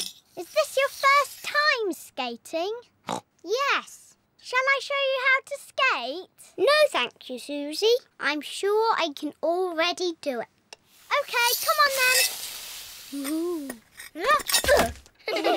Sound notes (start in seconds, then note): 2.8 snorts; 15.2 all giggle